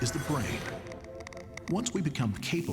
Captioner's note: wires crackling